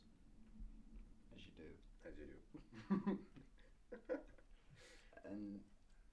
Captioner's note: laughter